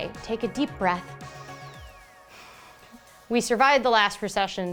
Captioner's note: breathes deeply